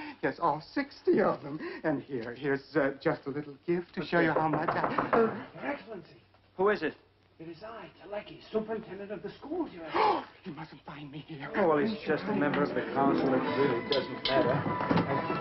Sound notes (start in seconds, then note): 4.3 knocking; 9.8 gasps